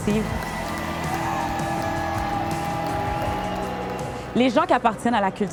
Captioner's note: applause